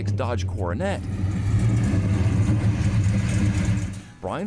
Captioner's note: engine rumbling